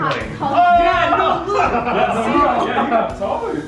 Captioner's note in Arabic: يضحك